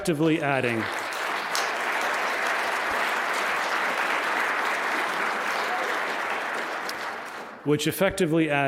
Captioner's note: applause